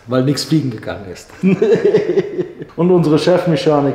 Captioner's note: laughter